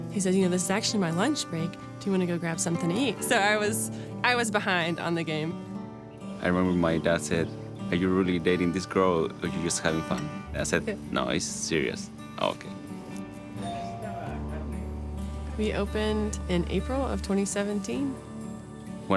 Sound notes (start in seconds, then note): 14.2 man speaks in foreign language